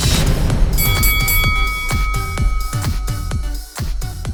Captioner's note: bell dings